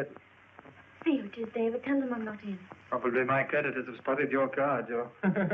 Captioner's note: chuckles